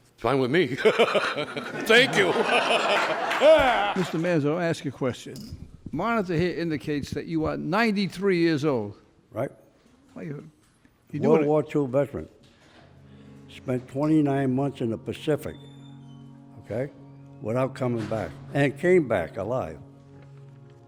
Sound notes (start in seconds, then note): 0.8 laughs; 2.7 laughter